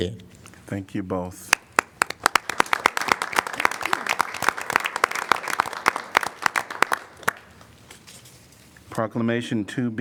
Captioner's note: applause